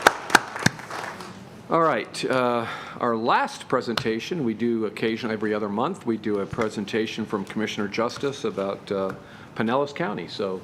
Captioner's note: applause